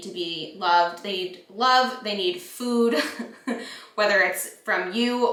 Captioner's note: chuckles